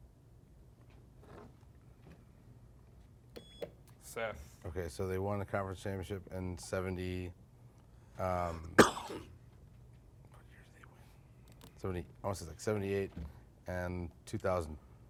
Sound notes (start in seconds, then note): 1.5 beep; 8.6 coughs